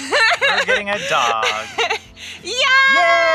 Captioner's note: laughing